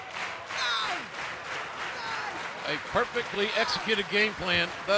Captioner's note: clapping